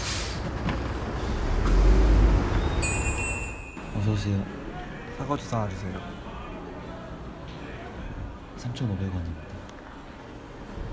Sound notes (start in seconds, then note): 0.0 bus going sound; 2.6 door bell sound